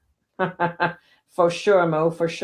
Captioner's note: laughing